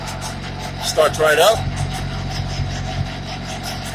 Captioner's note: engine pretty loud in background